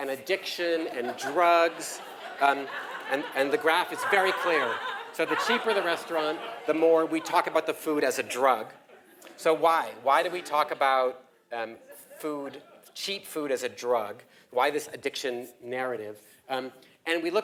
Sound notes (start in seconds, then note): 4.9 laugh